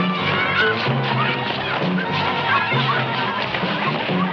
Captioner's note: children screaming